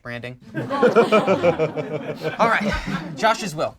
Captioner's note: group laughs